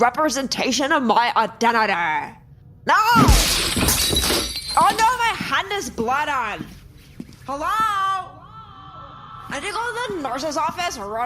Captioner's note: shouting